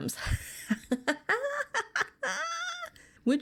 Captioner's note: laughs